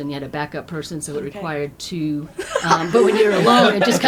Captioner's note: laughter